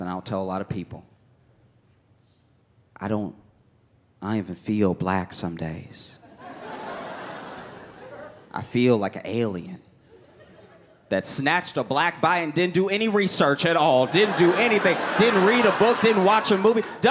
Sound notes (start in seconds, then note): 6.3 audience laughs